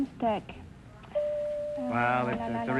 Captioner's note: chime rings